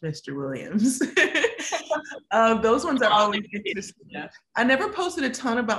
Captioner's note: laughs